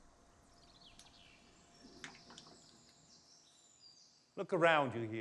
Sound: birds chirping

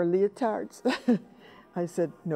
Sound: laughs

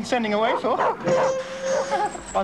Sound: dog barking

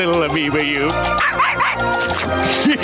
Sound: laughing; barking

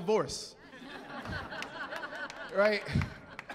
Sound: laughing

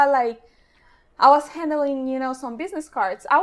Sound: none

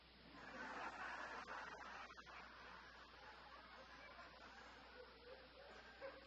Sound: audience laughter

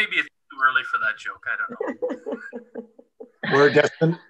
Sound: laughter

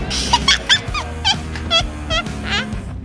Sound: laughs

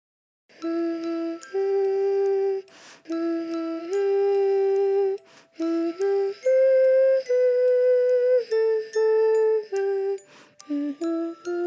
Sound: child humming

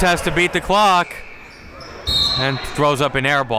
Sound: whistle blows; buzzer dings

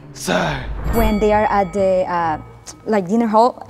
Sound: bell dings

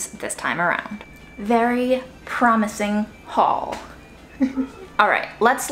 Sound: chuckles

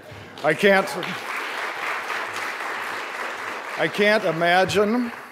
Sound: applause

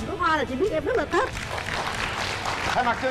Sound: claps

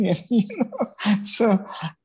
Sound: chuckles

